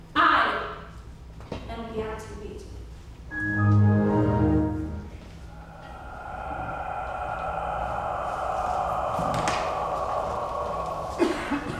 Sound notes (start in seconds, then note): 3.5 iPhone beeps; 6.8 ominous music